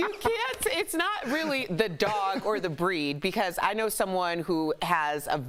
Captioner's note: laughter